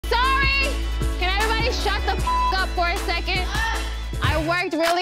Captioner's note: beep